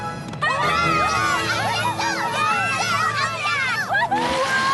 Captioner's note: all cheering